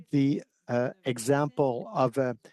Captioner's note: speaking French